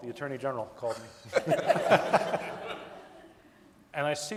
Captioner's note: audience laughing